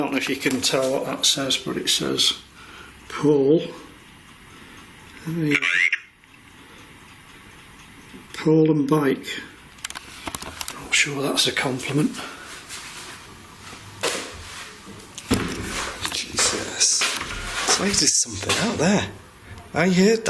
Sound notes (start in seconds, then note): 5.9 Voice on Ovilus